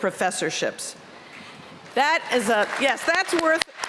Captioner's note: applause